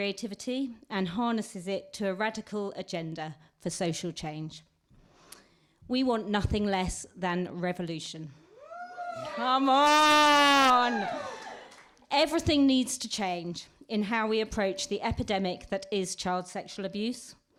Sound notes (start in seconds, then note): 8.5 whoop!